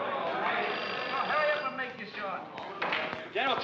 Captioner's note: phone rings